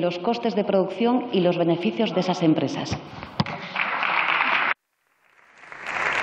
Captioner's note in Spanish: Aplausos